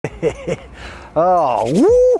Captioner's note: giggling